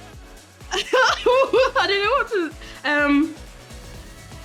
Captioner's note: laughs